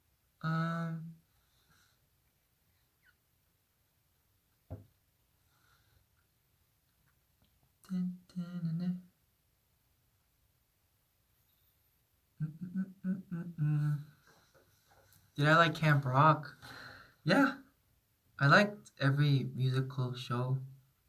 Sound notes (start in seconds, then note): 7.7 hums a tune; 12.4 more humming